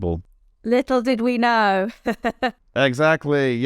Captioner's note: laughs